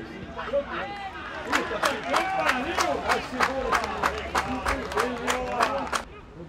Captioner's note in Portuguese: gritos de gol